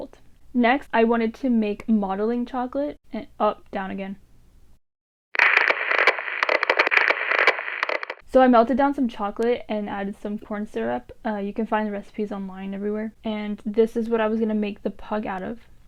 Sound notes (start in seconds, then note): 5.3 TV static